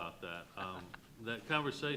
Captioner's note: panelist laughs